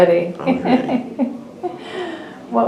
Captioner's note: laughs